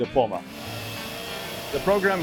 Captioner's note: tool whirs